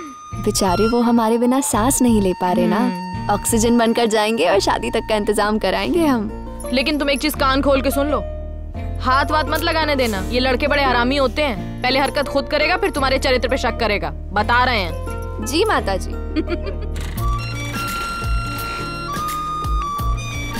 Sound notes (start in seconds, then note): 16.4 Laughs